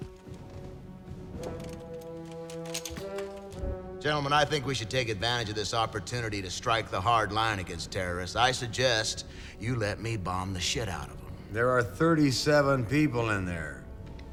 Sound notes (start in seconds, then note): none